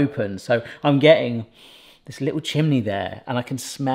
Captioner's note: sniffs